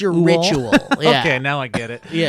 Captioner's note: laughs